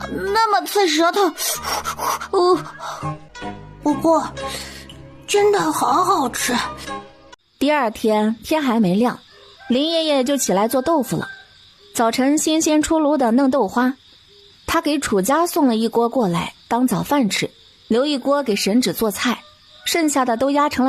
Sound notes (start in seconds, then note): 1.4 sniffles